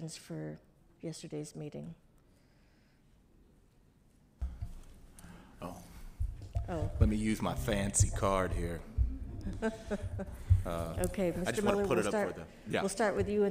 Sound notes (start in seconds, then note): 9.1 laughs